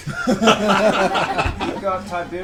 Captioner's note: all laugh